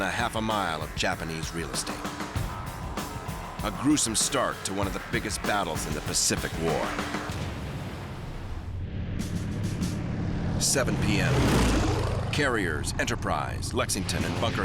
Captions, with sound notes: of Japanese real estate, a gruesome start to one of the biggest battles in the Pacific War. [engines roaring] 7:00 PM, carriers Enterprise, Lexington, and Bunker Hill